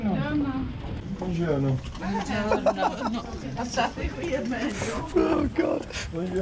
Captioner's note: laughing